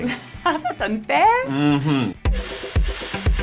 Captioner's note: laughs